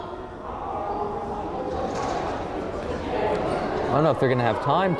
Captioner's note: crowd chattering